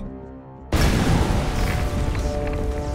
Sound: explosion

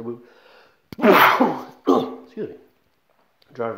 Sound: sneezing

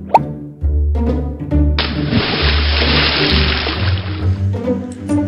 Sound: fish pop and splash

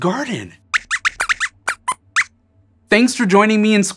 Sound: squeaks squeaks

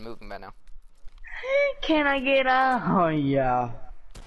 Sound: low voice

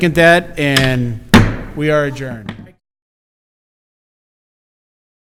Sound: gavel bangs

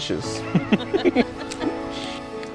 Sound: laughs

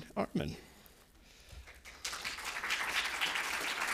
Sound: applause

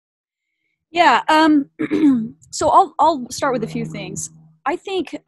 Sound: clears throat

